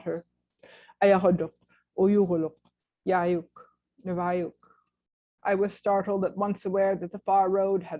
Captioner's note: non-english speech